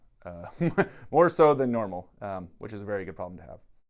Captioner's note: chuckles